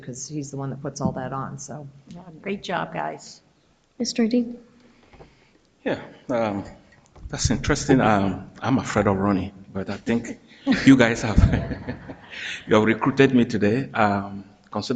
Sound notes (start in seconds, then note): 11.9 people laugh